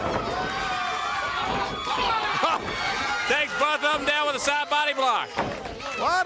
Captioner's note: crowd cheering